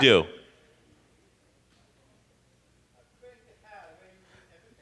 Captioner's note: person speaking off mic